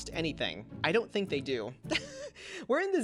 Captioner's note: laughs